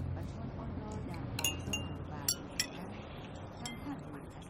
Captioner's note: clanking